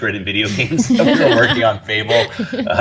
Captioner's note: women laughing